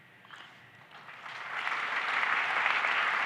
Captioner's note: applause